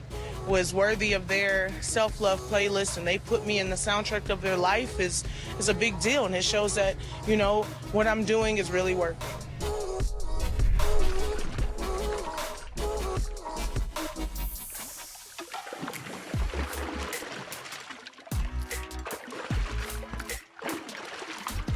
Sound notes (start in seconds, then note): 10.9 bright music continues; 10.9 water sloshing